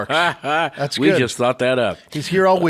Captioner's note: laughs